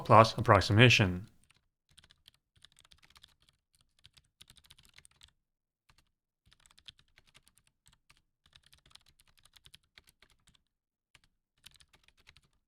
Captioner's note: typing